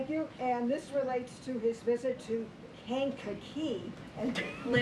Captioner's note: laughs